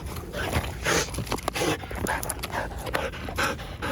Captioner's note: dog panting